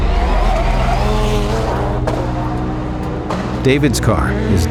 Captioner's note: tires popping